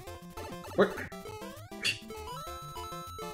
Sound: scoffs

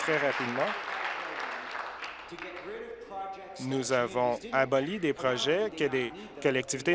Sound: applause

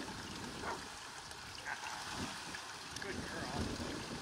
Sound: dog barks

